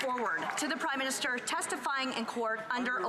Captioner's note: some Applause